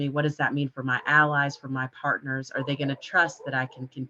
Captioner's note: dog bark barking